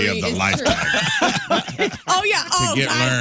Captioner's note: laughing